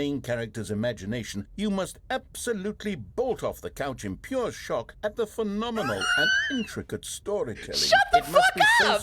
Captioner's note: laughs; laughing